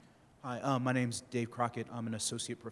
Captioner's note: voiceover